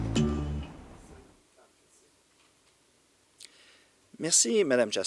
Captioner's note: silence